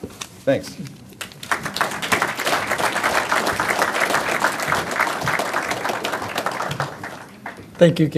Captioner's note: applause